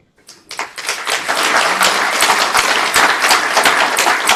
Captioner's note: audience applauds